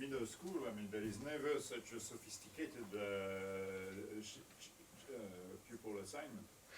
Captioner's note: faintly speaks